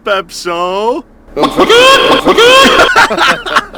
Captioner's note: laughes; distortedly sobbing rooster's chicken sound